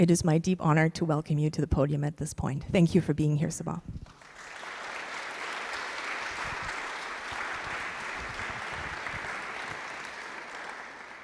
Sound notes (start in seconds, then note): 4.1 applause